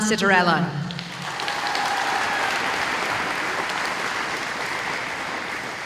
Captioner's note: applause